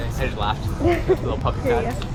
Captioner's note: chuckling